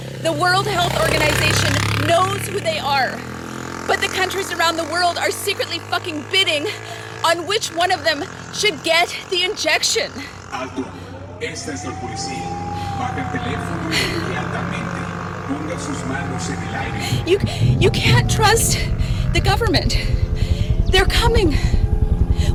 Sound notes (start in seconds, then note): 10.7 man on loud speaker speaking foreign language